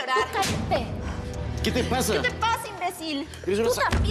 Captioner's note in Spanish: bofetada